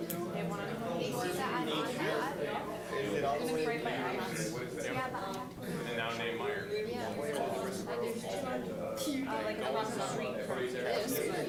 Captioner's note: general chatter